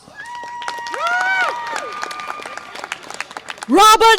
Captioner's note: audience applause and cheer